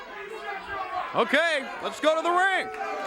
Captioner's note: crowd chatter